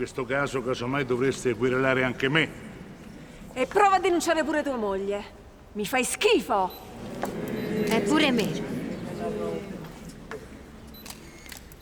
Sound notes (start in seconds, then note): 6.7 crowd murmurs; 9.8 cameras clicking